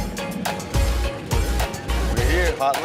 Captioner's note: wheels hitting the tarmac